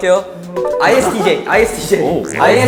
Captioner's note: confident